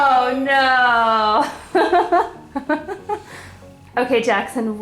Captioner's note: laughs